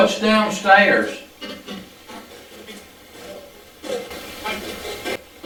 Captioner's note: static playback transmitting